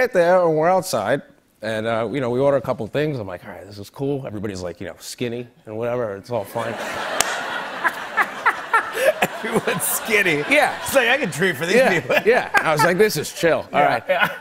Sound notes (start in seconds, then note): 6.5 laughter